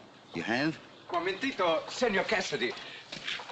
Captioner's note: in spanish